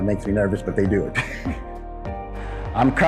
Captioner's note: laughs